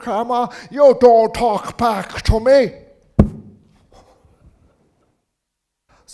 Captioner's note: grandma hitting him on head